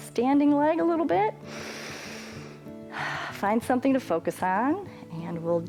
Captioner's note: inhales and exhales